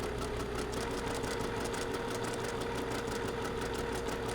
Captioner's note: sewing machine churning